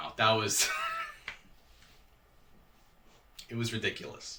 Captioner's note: chuckling